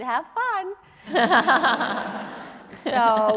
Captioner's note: audience laughing